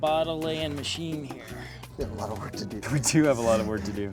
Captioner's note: laughs